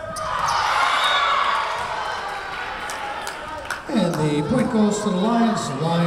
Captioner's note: crowd cheering; whistle blowing